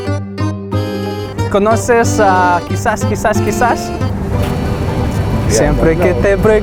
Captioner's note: in Spanish